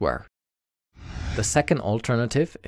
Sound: air whooshing

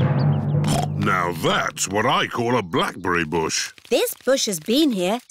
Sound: snorts

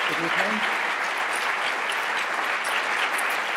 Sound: applause

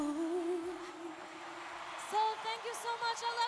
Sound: cheers and applause

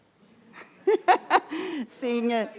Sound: laughing

